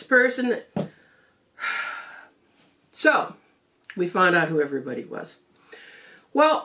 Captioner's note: sigh